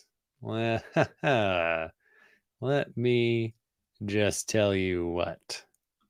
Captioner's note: chuckles